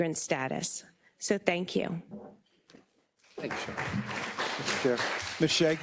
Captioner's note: attendees applauding